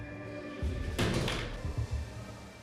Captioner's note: bang